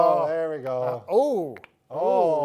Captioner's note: knuckles cracking